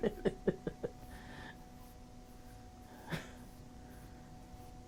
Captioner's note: laughing